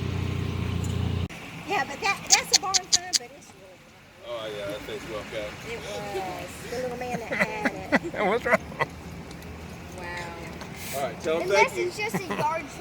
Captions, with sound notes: yeah but that's a boring time [laughter] wow